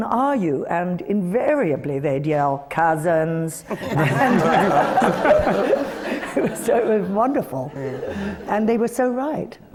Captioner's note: laughter